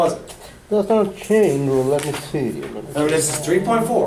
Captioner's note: voiceover